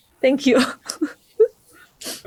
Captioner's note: chuckles